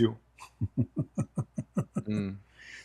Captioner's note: Ketawa